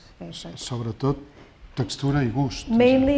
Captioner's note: speaking spanish